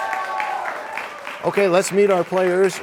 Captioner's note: cheers and applause